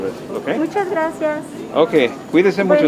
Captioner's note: in Spanish